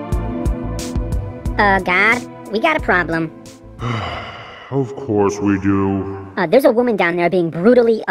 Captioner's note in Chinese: 嘆氣